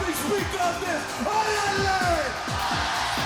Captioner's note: speaks foreign language